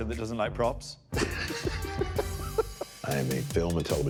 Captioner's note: laughing